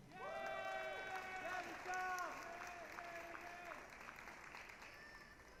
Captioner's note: applause, cheering